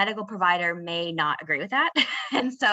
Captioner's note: laughing